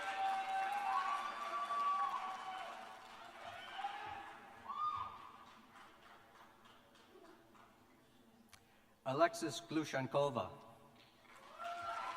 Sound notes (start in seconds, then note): 5.4 cheers and applause